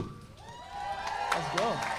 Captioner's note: audience applauding